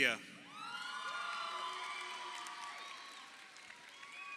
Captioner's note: crowd cheering